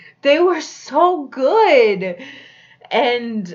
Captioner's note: none